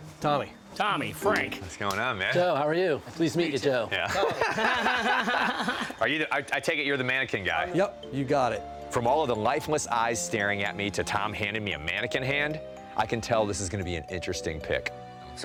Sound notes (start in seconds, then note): 4.0 laugh